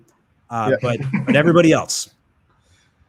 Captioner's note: laughs